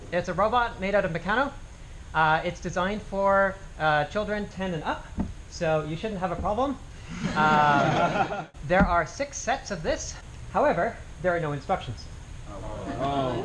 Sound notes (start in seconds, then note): 7.2 laughter; 12.5 groans